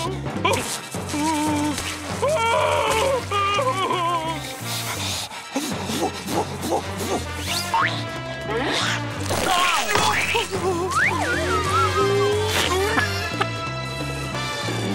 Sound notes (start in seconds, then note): 2.2 screaming; 3.0 whimpering; 5.2 blowing; 10.9 whimpering